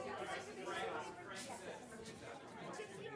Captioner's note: chatter continues